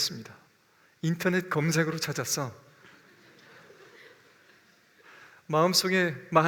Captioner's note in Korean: 웃음